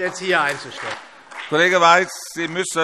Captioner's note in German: Beifall SPD